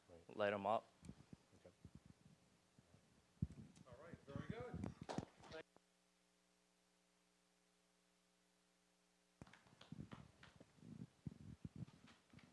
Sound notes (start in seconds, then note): 7.6 applause